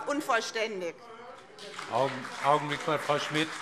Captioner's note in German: Beifall BÜNDNIS 90/DIE GRÜNEN und CDU - Unruhe